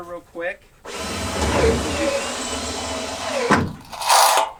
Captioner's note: drilling